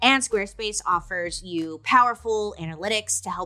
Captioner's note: none